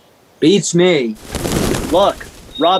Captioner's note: wings flapping